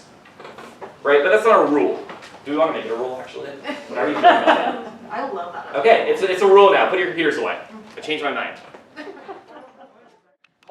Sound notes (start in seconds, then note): 5.5 laughs